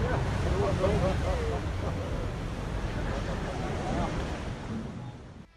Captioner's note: onlookers chattering